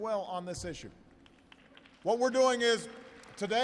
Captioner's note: applause